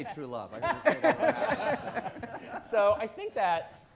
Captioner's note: all laughing